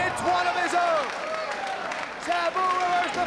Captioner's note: spectators cheering and applauding